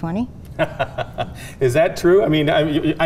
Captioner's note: laughing